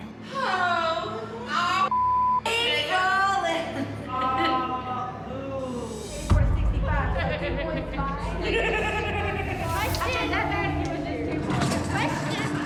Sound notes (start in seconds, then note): 2.7 singing indistinctly; 6.2 indistinct chatter; 7.2 inmate laughs